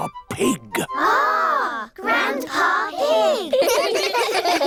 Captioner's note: giggling